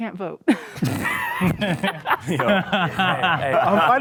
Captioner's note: men laugh